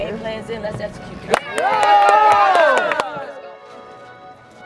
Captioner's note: cheering